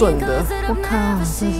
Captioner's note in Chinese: 外國話